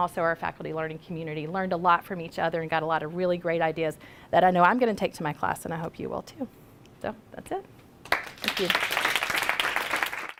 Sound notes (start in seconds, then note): 8.1 applause from audience